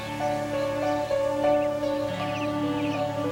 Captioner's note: chirping of birds